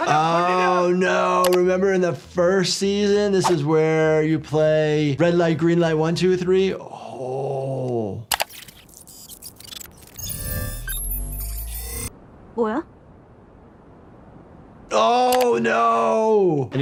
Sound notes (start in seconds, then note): 8.3 robot whirring; 8.4 robot buzzing; 12.6 player speaks in Korean